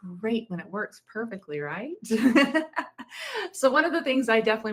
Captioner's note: laughs